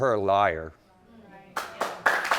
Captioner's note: audience clapping